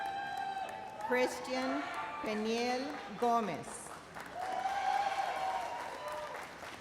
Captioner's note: audience cheers and applauds